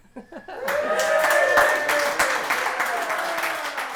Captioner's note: celebrating